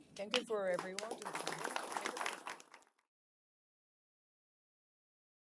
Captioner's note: applause